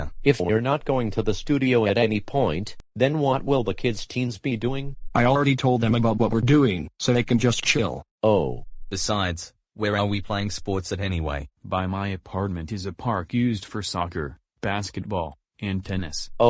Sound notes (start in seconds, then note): none